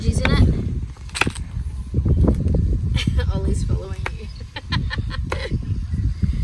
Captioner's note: loud chopping sounds; laughs